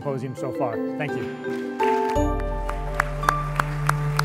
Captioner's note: applause